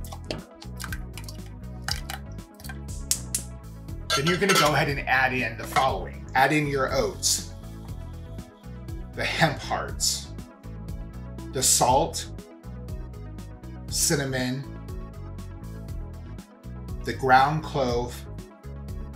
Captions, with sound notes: (prunes plopping) (burner ticking) Then you're gonna go ahead and add in the following, Add in your oats, the hemp hearts, the salt, cinnamon, the ground clove,